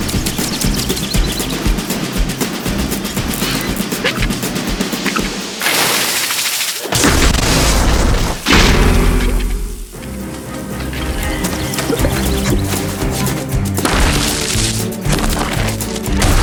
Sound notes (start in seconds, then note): 5.6 water squirt; 7.0 thud; 7.0 loud bang